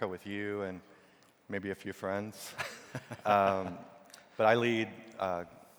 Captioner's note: laughs